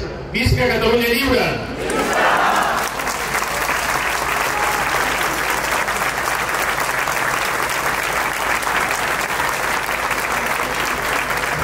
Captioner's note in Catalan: Aplaudiment